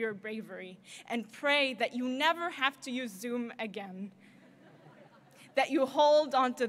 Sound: audience laughter

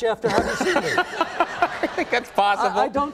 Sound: laughing

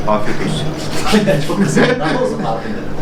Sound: laughs

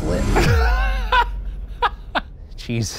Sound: laughs

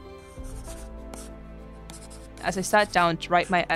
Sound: pencil scratching

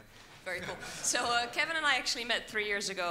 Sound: audience laughs

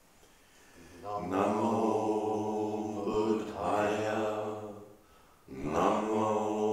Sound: chanting in unison

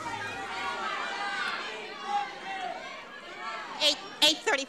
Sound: audience yelling

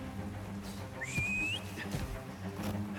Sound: whistle

